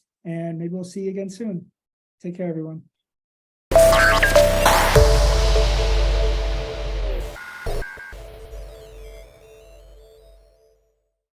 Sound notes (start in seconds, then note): 3.7 computer glitch beeps; 3.7 ethereal chimes ring